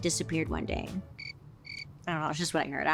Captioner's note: insects chirping